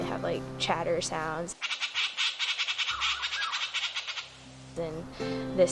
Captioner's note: gray Jay chatters